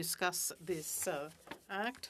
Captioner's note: speaking French